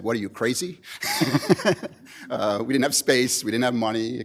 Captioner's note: laughs